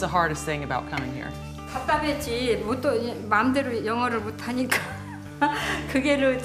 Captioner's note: speaking in foreign language